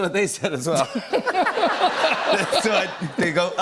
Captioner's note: laughter